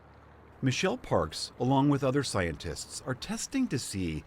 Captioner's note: voice-over